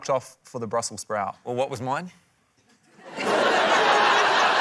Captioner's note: laughter